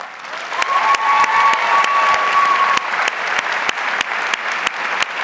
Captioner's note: audience cheers and applauds